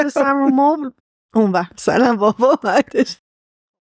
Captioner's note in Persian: خنده